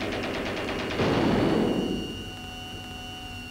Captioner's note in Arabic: إطلاق نار